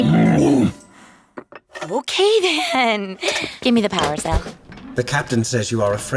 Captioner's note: grunts